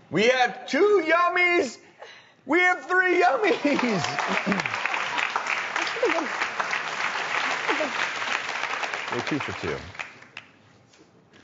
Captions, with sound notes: We have two yummies. We have three yummies. (crowd applauds) We're two for two.